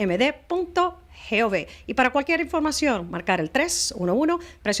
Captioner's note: Hablando ingl\s